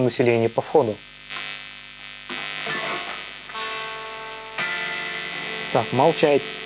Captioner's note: Hum sound